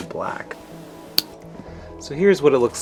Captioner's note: snaps